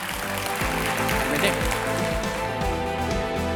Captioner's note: applause; upbeat music